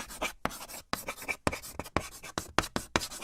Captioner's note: chalk writing on a chalkboard